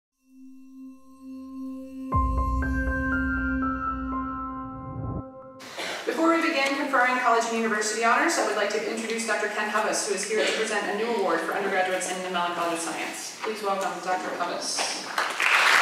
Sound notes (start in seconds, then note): 0.2 bright music; 4.6 whoosh